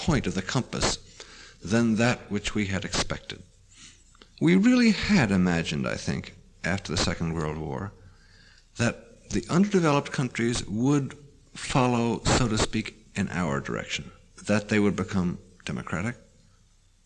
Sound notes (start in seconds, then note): none